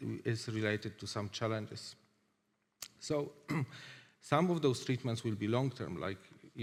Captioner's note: clears throat